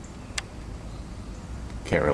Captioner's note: click